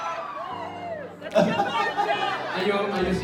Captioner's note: person shouts in crowd